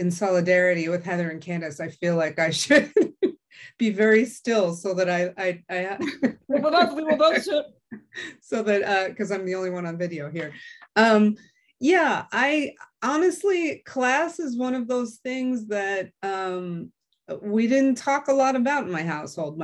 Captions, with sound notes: solidarity with Heather and Candice I feel like I should [LAUGH] Be very still so that [LAUGH] So that because I'm the only one on video here. Yeah I honestly class is one of those things that we didn't talk a lot about my household.